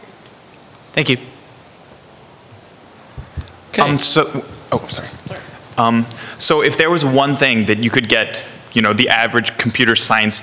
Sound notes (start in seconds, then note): none